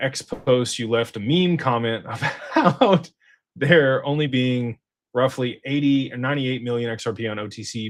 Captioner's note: laughter